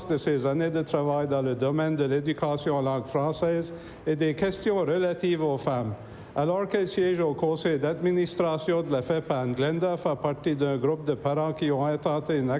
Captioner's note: speaking french